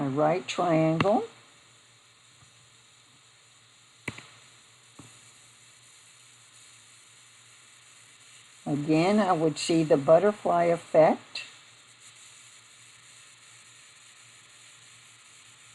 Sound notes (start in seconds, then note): 2.0 silence